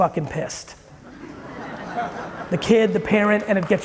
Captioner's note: audience chuckling